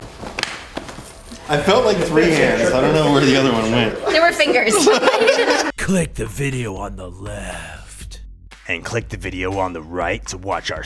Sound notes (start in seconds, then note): 4.0 laughter